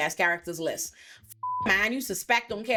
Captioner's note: beep